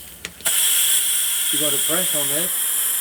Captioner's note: steam hissing